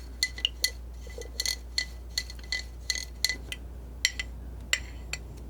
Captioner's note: scratching